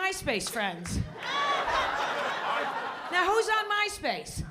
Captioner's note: laughter